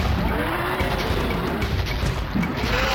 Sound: laughs; growls and roars

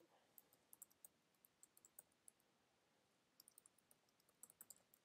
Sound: keyboard clicking

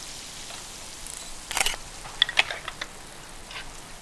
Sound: camera beeps

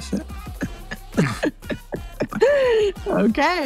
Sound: laugh

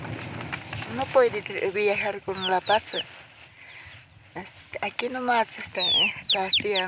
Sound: villager speaking in foreign language

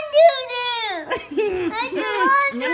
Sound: laughs

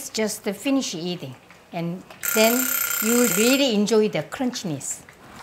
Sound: alarm rings

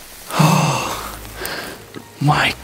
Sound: sighs

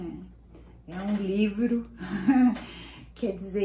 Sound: laughs

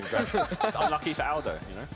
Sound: laughing

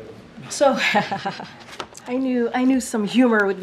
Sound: laughter

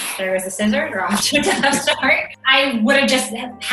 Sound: laughs

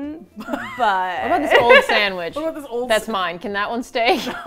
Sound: laughs; laugh

